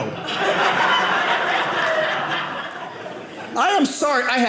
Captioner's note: audience laughing